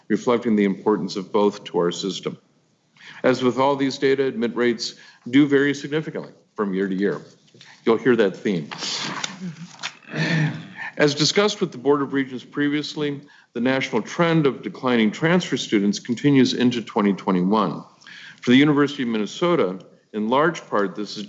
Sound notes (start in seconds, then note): 8.4 papers shuffling; 10.0 clears throat